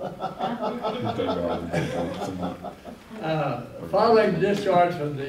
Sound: laughter

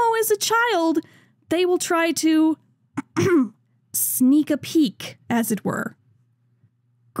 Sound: ahem

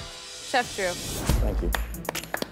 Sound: applause

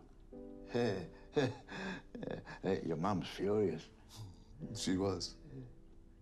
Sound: chuckles

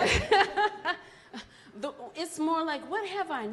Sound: laughs

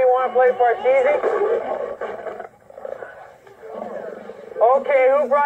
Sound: growling

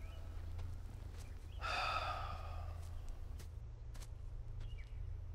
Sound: Cody sighs

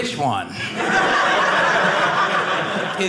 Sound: audience laughing

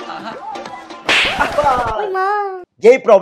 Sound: slapped

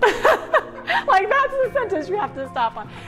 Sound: laughs

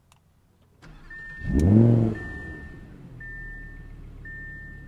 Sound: engine revving

